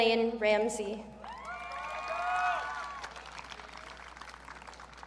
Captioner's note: audience cheering